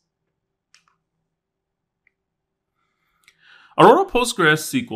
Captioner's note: remote clicking